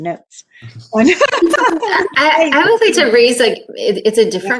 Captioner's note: laughs